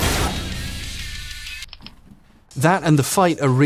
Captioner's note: button clicks